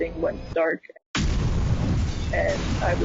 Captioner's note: loud explosion